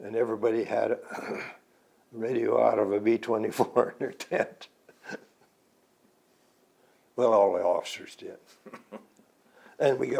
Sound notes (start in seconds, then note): 1.1 clears throat; 4.9 laughs